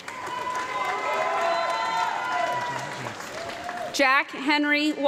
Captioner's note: audience clapping and cheering